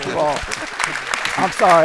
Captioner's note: applause